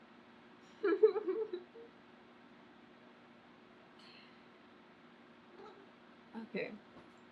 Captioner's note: laughs